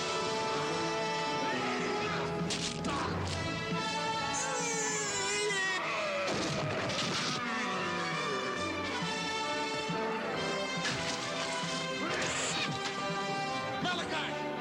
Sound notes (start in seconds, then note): 4.8 Qahhar roaring; 4.8 dramatic music; 14.4 dramatic music